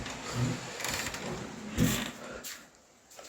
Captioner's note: door opening